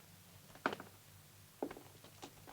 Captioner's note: none